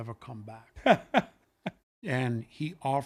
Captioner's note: laughs